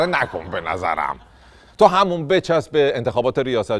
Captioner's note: laughter